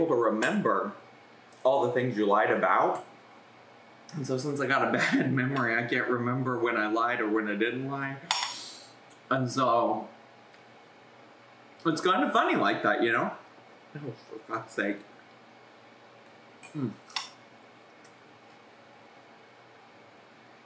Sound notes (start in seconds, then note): 16.7 moans